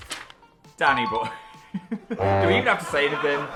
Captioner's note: laughing